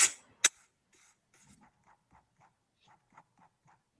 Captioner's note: paper tearing